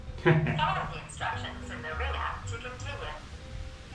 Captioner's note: device speaking